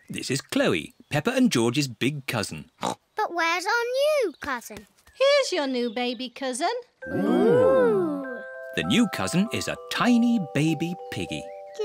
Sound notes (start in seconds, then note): 2.8 oinks